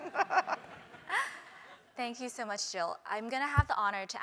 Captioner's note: laugh